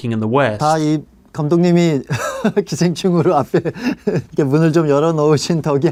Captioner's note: Hwang Dong-Hyuk speaking in Korean